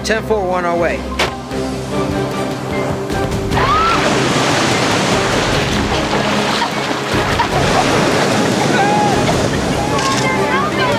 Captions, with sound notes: -10-4, WE'RE ON OUR WAY. [SCREAMS] [WAVES CRASHING]